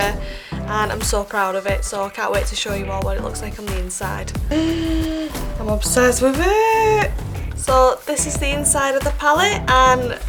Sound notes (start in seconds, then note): 4.4 gasps